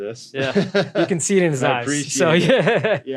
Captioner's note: laughs